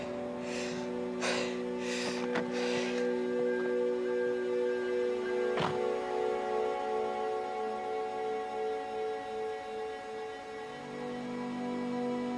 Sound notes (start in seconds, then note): 2.2 beeping; 2.2 opens car door; 5.5 door closes